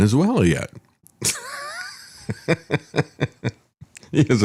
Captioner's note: laughs